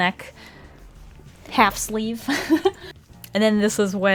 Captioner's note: laughs